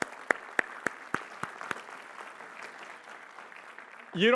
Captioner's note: applause